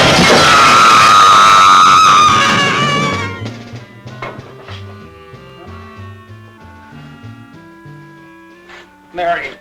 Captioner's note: window shattering; Janice screaming